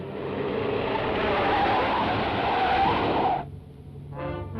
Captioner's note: engine rumbles; tires squeal; dramatic orchestral music